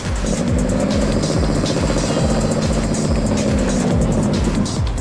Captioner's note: engine rumbling